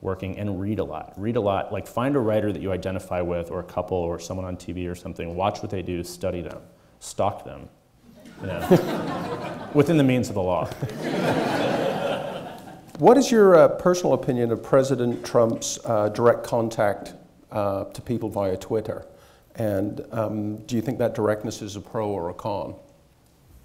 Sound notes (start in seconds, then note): 8.1 audience chuckling; 10.8 audience laughing